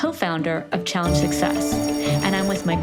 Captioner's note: bell rings